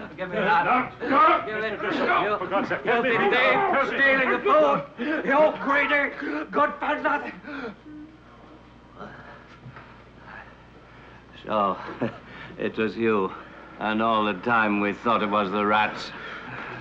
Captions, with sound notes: Give me that. - Now, stop! - Give it. - Stop! - Dussel for god's sake. - Dirty thief. - Let me go! - Stealing the food. - I give up. - You greedy, good for nothing. So (chuckles) it was you. And all the time we thought it was the rats.